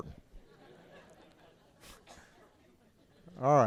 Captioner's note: laughter